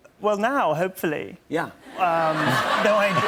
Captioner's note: laughter